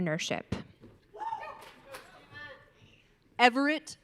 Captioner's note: audience cheering